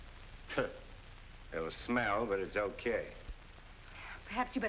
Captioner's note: scoffs